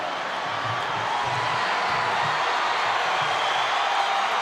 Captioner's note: audience cheering